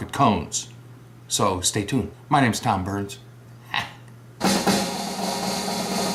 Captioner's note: laugh